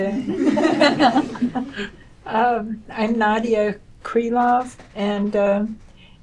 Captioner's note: laughter